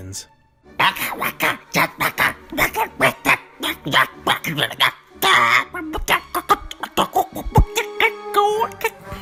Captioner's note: alien Gibberish